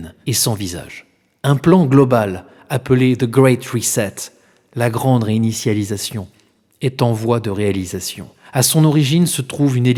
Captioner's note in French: la grande réinitialisation, en Français